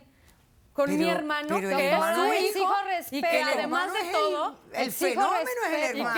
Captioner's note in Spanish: Hablan al unísono